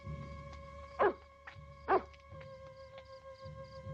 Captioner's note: wolf barks